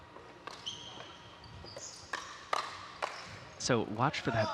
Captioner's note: shoes squeaking